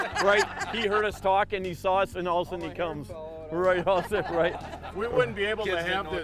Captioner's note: laughing; laughing